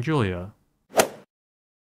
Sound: swoosh

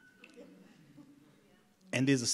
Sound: audience laughs

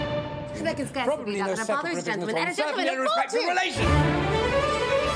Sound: arguing; intense music

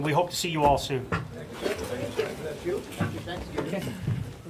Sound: chattering

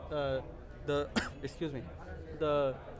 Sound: coughs

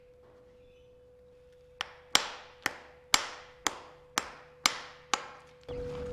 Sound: hammer tapping

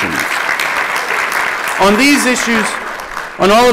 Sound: applause

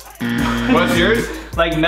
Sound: loud buzzing

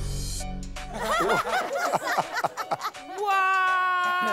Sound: laughter

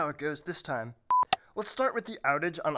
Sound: beep

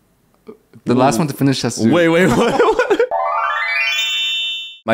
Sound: laughs

